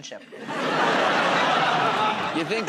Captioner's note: laughter